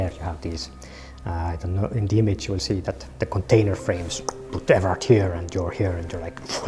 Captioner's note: clicks